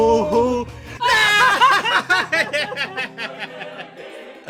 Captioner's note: laughter